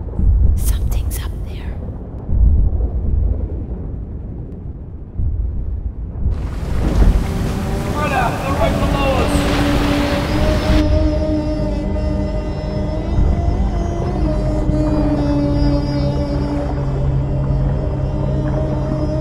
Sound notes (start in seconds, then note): 2.4 thunder rumbling and muffled noises; 6.4 boat engines roaring